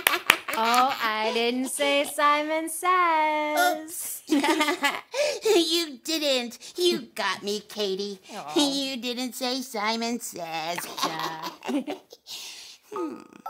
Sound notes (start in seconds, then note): 0.0 chuckling; 4.3 chuckling